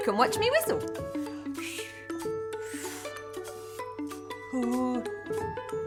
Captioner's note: blowing air